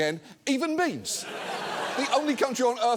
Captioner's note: studio audience laughs